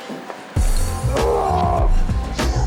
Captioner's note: yelling